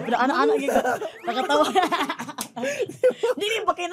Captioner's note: chuckles